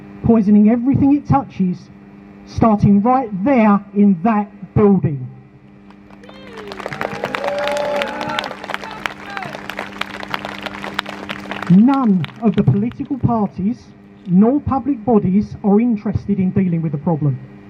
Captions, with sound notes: poisoning everything it touches - starting right there in that building. [Crowd Cheers] None of the political parties nor public bodies are interested in dealing with the problem,